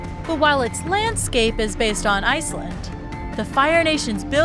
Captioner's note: metallic ringing